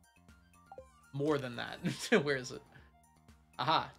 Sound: laughs

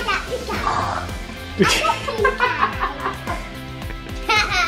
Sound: all laughing

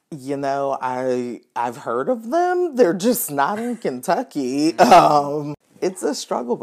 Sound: laughs

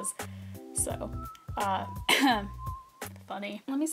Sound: cough

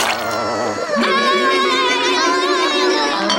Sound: yelling

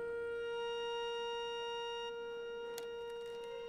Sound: heart monitor flatlines

